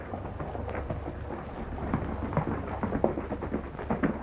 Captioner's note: horses galloping